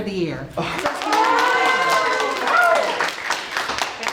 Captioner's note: crowd clapping